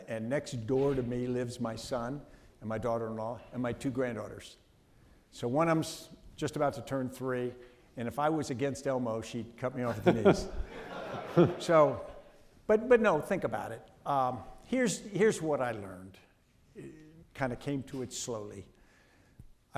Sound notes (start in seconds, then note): 9.9 audience laughing